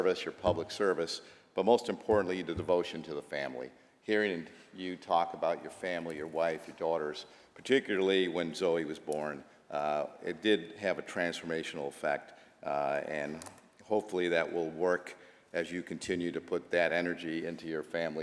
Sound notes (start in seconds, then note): none